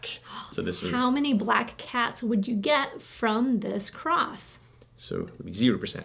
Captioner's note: gasps